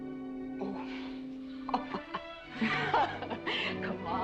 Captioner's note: laughs